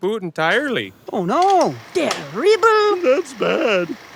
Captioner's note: Geese